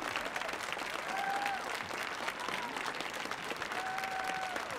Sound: audience applauding

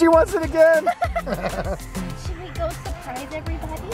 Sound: laughs

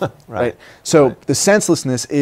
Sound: laughter

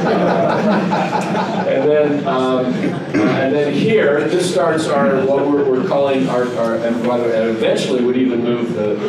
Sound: laughter

